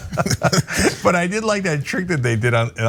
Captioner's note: laugh